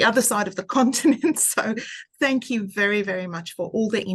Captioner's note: laughing